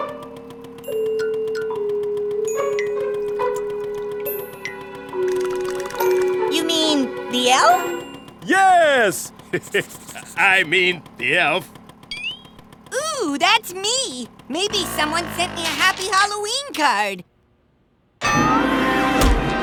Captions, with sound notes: YOU MEAN... THE ELF? YES! (LAUGHS NERVOUSLY) I MEAN... THE ELF. OOH! THAT'S ME! MAYBE SOMEONE SENT ME A HAPPY HALLOWEEN CARD!